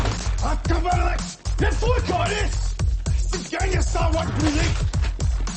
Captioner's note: guy speaking foreign language